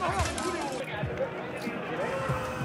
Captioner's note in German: Stimmengewirr